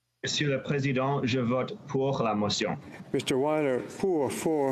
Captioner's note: speaking FRENCH